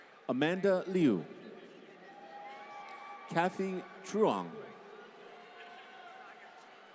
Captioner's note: applause